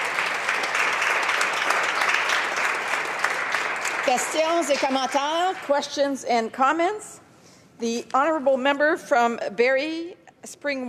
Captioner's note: some applause